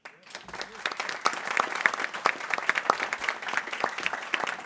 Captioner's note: people clapping